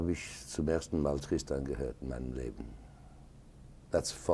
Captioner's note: speaking a foreign language